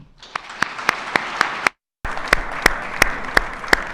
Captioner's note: attendees clapping